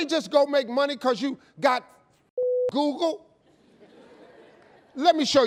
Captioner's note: beep; audience laughing